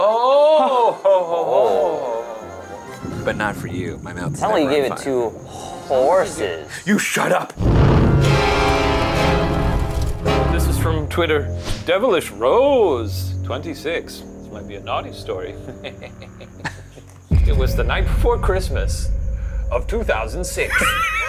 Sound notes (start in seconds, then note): 8.6 ominous music; 15.6 chuckles